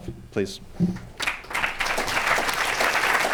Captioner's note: applause